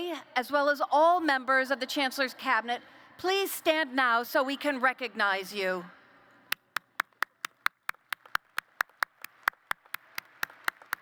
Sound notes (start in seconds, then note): 6.7 applause